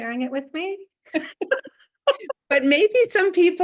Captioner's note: both laugh